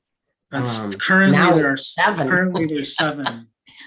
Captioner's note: laughs